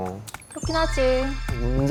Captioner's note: SFX: superstar vibes